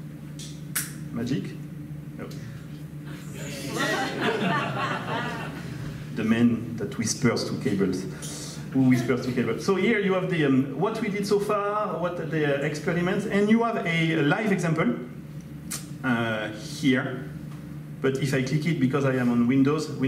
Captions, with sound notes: (finger snaps) Magic, oh. (audience laughs) The man that whispers to cables. Whispers to cables... So here, you have what we did so far, what the experiments, and you have a live example here, but if I click it, because I am on Windows,